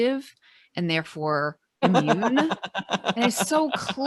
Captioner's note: laughing